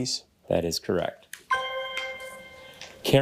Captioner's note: bell dings